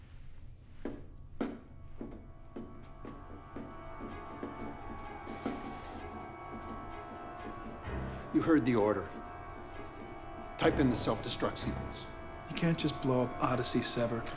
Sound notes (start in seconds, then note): none